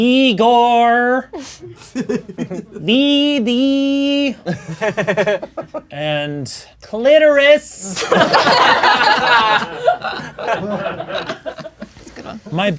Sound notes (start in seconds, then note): 1.7 laughing; 4.4 crowd laughing; 7.9 crowd laughing